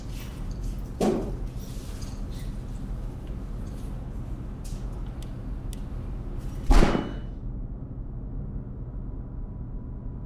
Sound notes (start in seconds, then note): 6.3 bang